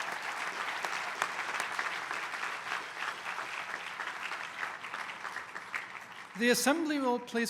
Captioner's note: applause